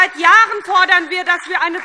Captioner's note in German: Beifall SPD